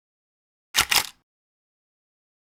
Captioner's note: camera click